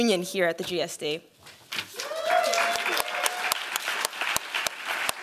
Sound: applause

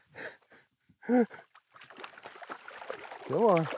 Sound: laughs

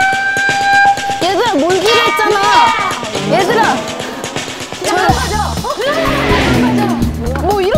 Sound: wild stance, scream

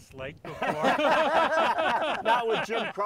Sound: laughter ensuing

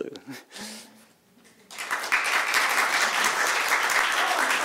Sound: applause

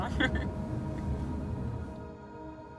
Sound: chuckles

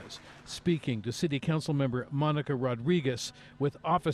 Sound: applause

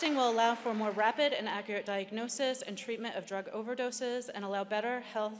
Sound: cheering

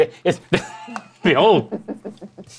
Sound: laughs

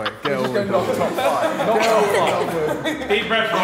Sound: Sidemen laughing

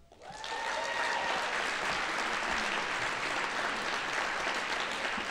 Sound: audience applauding

